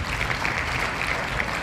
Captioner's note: applause